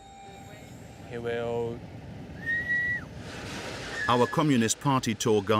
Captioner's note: speaking foreign language